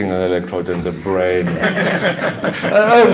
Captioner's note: laughter